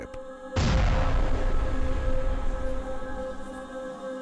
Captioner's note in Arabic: انفجار مدوٍ